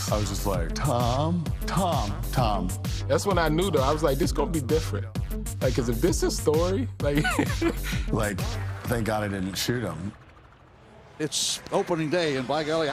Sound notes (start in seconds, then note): 7.1 laughs